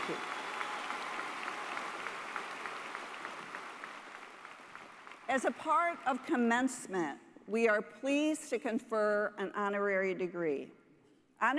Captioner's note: applause